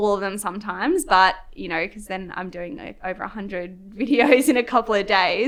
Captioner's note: laughs